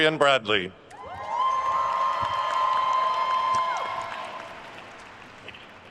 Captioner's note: attendees cheering and applauding